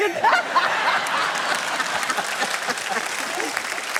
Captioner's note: laughter